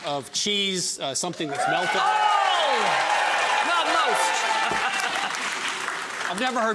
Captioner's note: audience cheering; chuckles